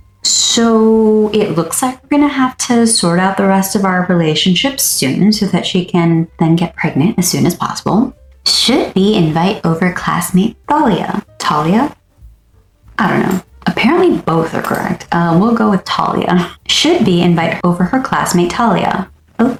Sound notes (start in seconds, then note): 10.5 tries out several pronunciations